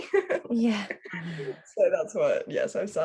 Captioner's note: both laugh and agree